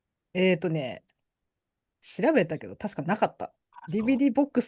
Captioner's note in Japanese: 笑い